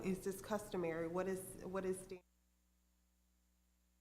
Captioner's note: microphone muted